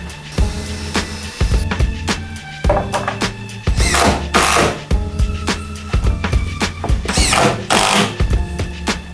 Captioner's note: drilling